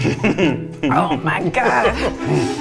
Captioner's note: laughing